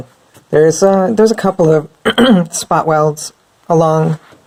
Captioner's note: clears throat